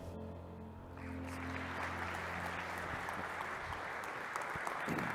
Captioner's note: applause